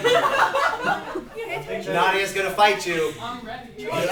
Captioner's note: laughter